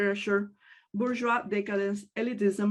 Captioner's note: speaks in native language